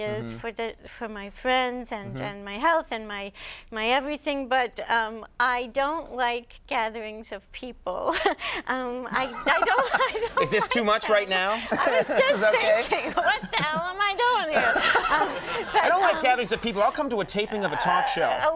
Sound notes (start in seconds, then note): 9.2 both laughing; 18.2 laughs